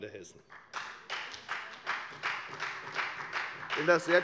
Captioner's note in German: Beifall bei der FDP und bei Abgeordneten der SPD